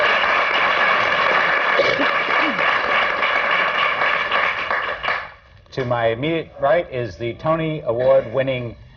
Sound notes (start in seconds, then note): 1.8 applause